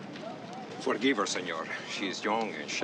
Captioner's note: hispanic accent